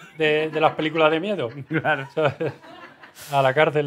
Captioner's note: he laughs